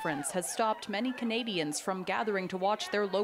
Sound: cheers and Applause

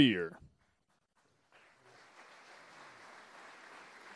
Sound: applause

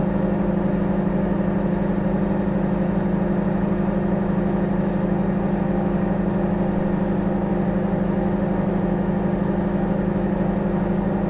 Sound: microwave humming

